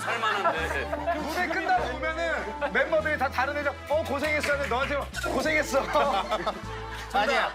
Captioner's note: in a North Korean accent